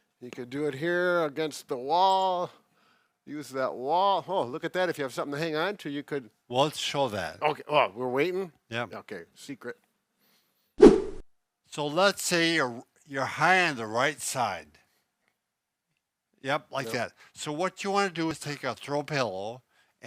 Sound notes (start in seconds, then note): 10.8 air swooshing